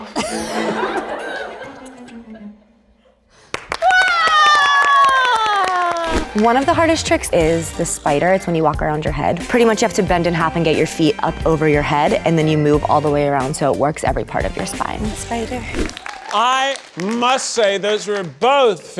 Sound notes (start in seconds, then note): 0.0 audience laughs; 3.4 audience applauds